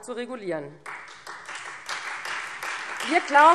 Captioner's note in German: Beifall Freie Demokraten